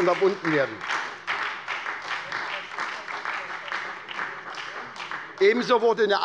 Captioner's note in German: Beifall bei der SPD